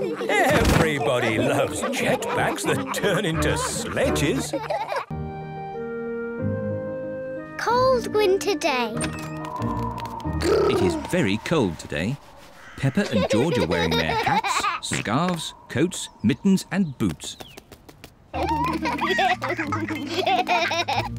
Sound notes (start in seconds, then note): 9.4 wind whistles; 18.4 both giggle